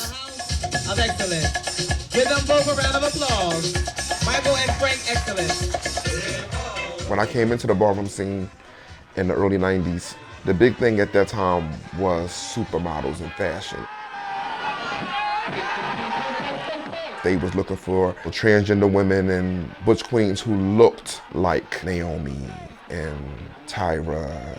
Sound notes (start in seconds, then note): 13.8 crowd chanting